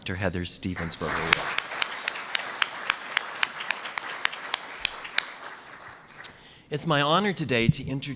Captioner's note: applause